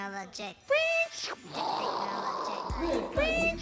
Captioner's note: crazy effects continue